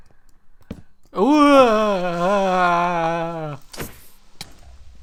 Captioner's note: scared Oooh Ahhh noises